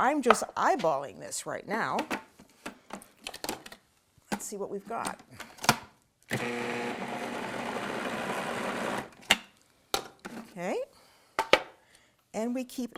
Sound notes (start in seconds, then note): 6.3 machine whirrs